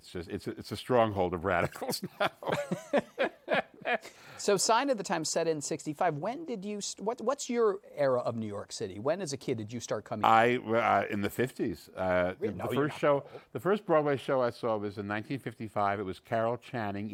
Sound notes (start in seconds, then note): 1.6 laughter